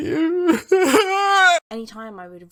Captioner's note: loud crying